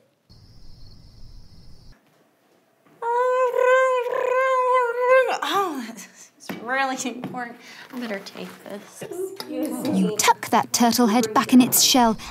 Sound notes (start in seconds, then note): 0.2 crickets chirping; 3.0 girl makes ring noises